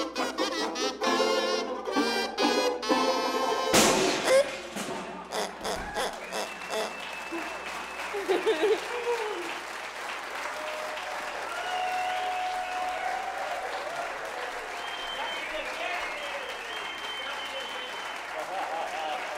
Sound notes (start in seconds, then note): 3.7 loud clattering; 5.1 toy pig grunting; 7.3 audience cheering and applauding